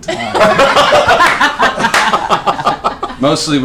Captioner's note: laughter